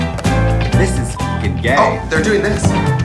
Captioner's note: beeps